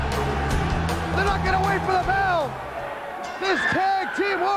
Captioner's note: crowd cheering